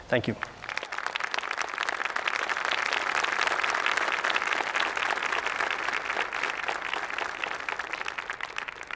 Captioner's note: applause